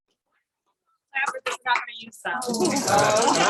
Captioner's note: chatter